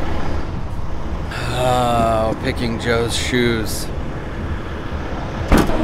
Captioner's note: sigh of begrudging